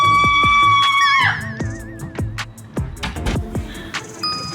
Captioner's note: The NPC lets out a scream right on cue